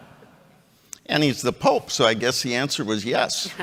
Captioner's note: chuckles